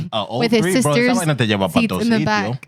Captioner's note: speaking Spanish